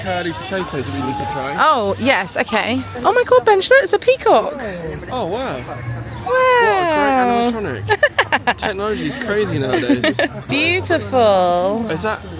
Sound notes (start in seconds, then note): 8.2 laughing